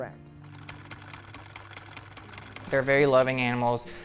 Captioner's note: sewing machine clicks